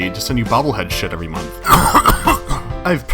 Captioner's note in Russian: кашляет